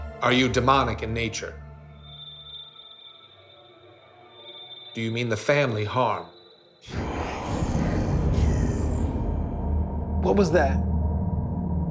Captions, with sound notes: Are you demonic in nature? Do you mean the family harm? (demonic voice) - What was that?